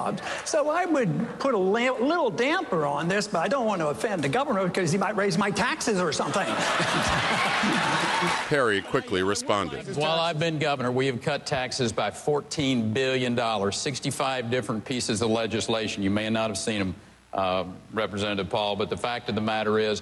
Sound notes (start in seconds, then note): 6.2 laughter; 7.0 cheering and applause